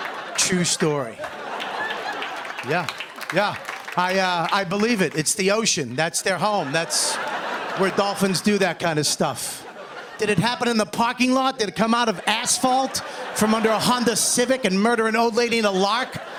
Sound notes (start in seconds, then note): 6.5 laughter